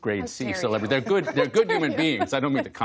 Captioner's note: laughter